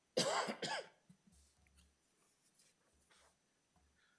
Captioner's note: trustee coughing